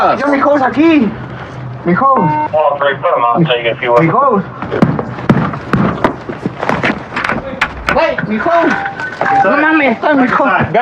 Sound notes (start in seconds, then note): 0.3 spepeakaking g spspanis; 4.5 spepeakaking g spspanis